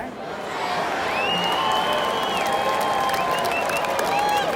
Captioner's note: crowd cheers